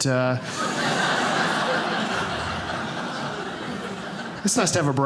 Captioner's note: audience laughing